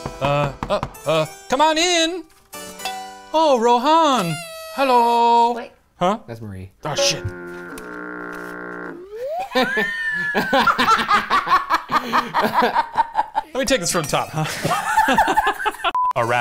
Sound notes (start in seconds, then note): 0.0 door knocking; 9.0 slide whistle squeaking; 10.0 laughing